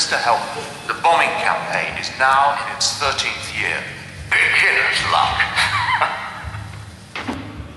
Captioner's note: laughter